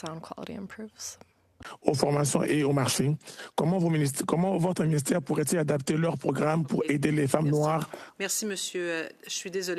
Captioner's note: speaking French